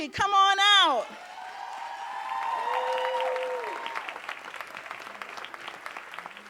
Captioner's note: audience cheering and applauding